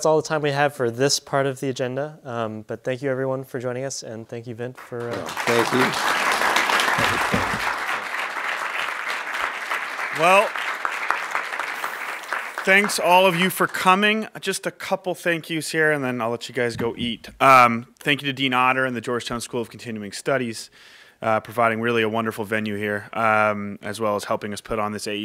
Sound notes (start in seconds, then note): 9.7 applause